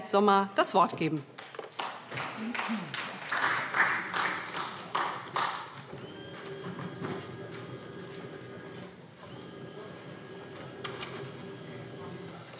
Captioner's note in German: Vereinzelter Beifall SPD